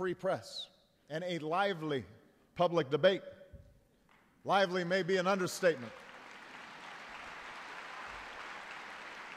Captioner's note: applause